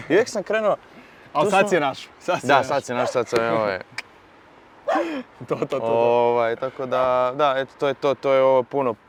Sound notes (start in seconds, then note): 5.2 clicks